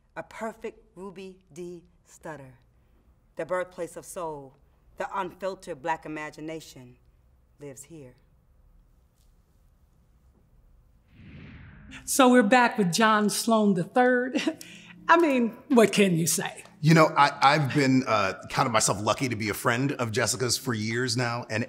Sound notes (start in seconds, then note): 11.1 air whooshing; 14.4 chuckles